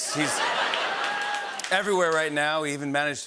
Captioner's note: cheering and applause